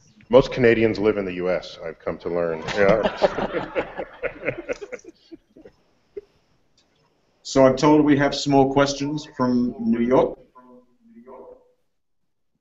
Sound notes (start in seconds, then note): 2.6 laughter